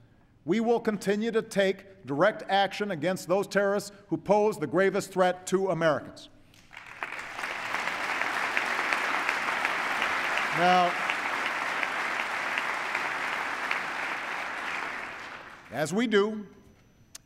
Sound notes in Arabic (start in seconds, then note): 12.6 تصفيق